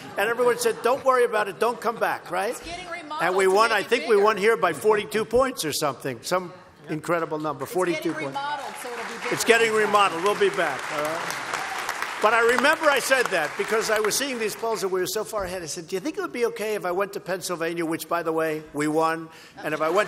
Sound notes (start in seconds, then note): 10.9 applause; 19.7 laughter and applause